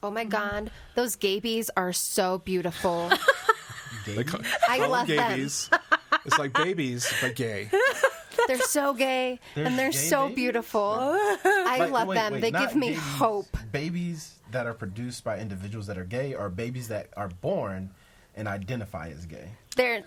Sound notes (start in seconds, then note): 2.8 all laughing; 11.0 laughs